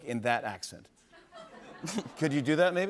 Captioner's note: laughter